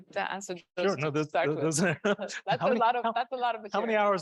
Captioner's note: man chuckling